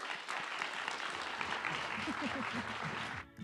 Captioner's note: audience applauding; joyful music